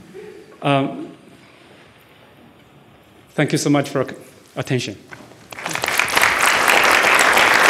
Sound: laughter; applause

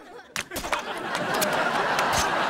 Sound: laughing

